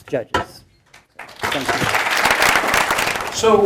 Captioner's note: applause